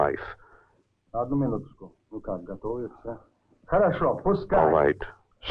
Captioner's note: all speaking in Russian